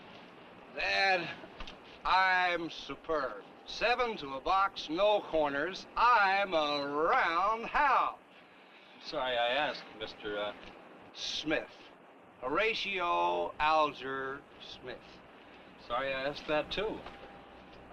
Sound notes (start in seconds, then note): none